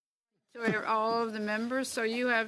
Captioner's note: speaking French